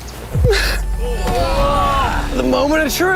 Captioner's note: groaning